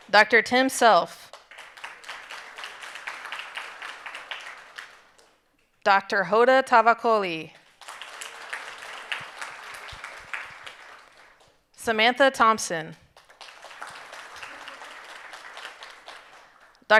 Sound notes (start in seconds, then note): 1.3 audience applauding; 7.7 audience applauding and cheering; 13.1 audience applauding